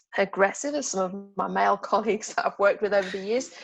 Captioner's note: laughs